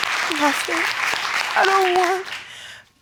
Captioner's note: tearfully